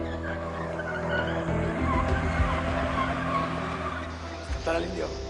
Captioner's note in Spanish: Frenazos